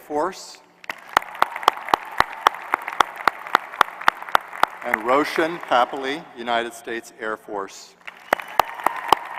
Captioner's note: applause